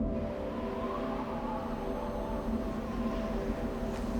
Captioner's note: gently blowing wind